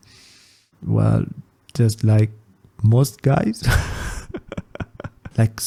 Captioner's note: laughs